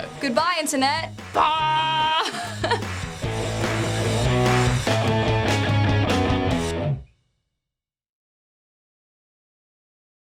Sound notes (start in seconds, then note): 1.8 laughs